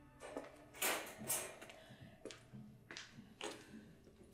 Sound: rattling

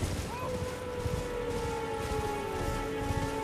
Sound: howling

